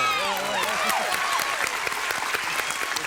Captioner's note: applause